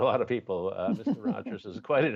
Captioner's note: laughter